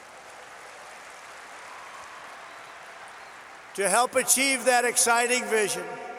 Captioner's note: applause